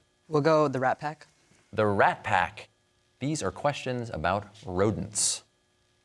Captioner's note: none